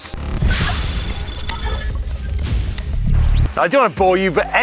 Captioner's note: electronic whirring